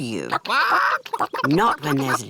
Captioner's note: chickens chatter